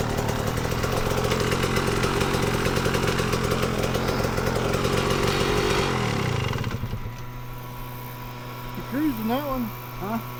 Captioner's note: engine revving